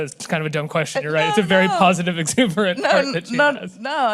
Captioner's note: laughingly